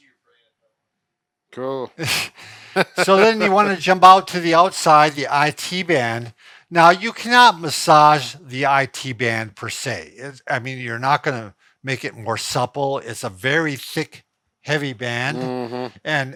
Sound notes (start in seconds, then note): 1.9 both laugh